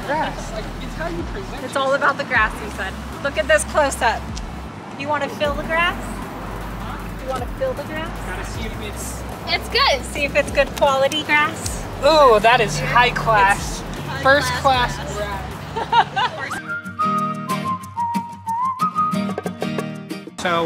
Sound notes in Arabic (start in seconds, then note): 15.6 يضحك; 18.0 موسيقى مبهجة